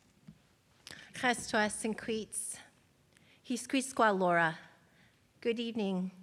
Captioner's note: speaks in foreign language